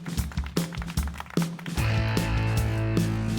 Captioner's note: audience applauds; upbeat rock music